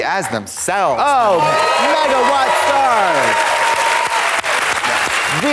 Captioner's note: audience applauds